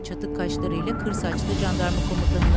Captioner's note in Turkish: Telsiz sesi